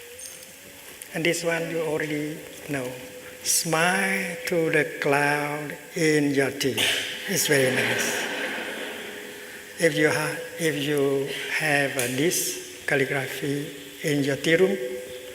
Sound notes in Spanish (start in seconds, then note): 7.7 Risas